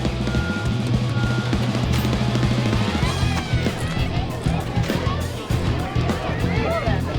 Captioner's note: dramatic music; people chattering